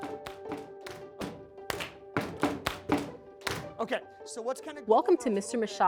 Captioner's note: students clapping